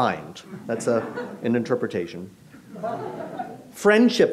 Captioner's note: audience laughs